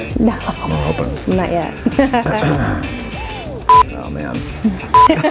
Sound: laughing; laughs; beeping

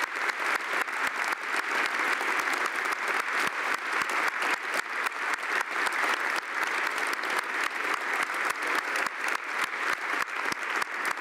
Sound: applause

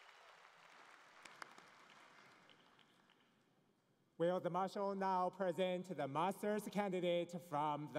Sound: cheering and Applause

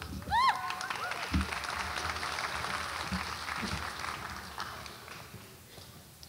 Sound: audience applauds and cheers

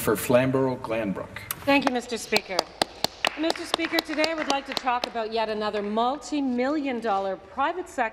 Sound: applause

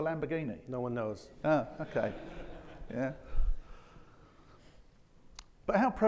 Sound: audience chuckling

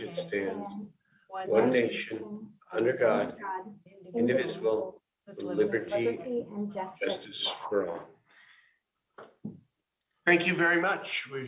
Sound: reciting the pledge of allegiance

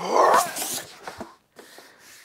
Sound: grunting

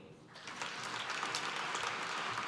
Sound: applause

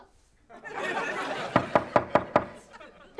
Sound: knocking

